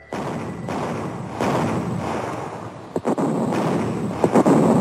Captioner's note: bombs exploding